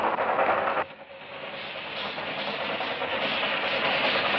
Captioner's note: train engine roaring